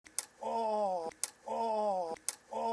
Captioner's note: snap!